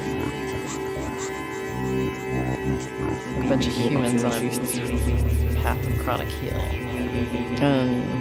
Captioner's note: rhythmic distortion